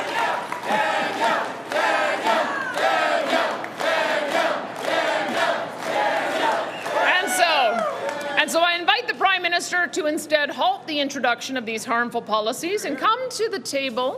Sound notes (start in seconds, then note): 0.0 cheering; 0.0 chanting